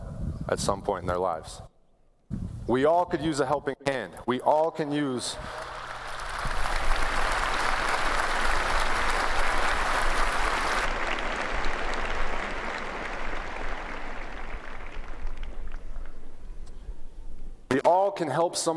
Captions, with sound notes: MATTER HOW BIG YOU ARE, NO MATTER HOW STRONG YOU ARE, NO MATTER HOW TOUGH YOU MAY BE, EVERYBODY NEEDS TO ASK FOR HELP AT SOME POINT IN THEIR LIVES. WE ALL COULD USE A HELPING HAND BEEN WE ALL CAN USE -- (APPLAUSE)